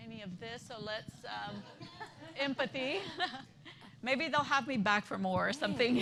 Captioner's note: laughter